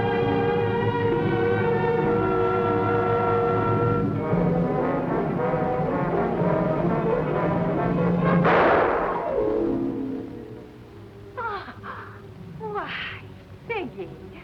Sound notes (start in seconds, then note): 8.4 gunshot